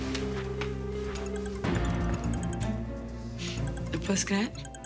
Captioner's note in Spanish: suena el celular